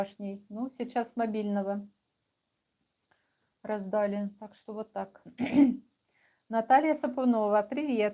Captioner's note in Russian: откашливается